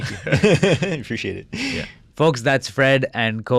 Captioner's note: laughing